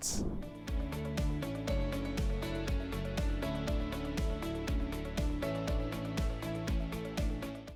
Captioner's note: screen whooshing; upbeat music